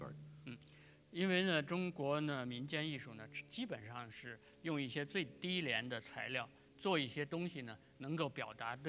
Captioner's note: speaking in Chinese